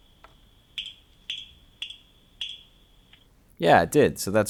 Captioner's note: snapping